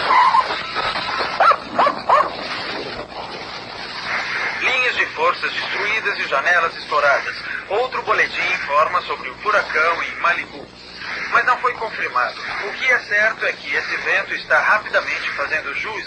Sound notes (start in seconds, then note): 1.4 dog barking